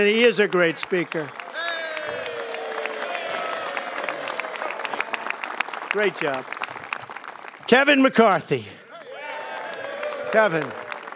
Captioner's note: applause; cheers and applause